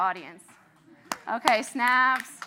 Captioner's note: applauds